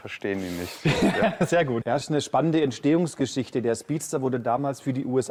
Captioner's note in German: gelächter